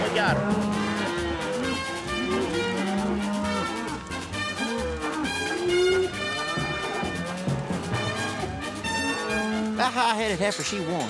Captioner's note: mooing